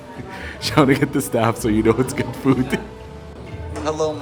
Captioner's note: chuckles; laughs